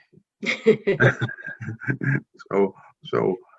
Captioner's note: panelists laughing